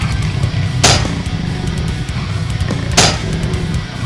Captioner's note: legs clanking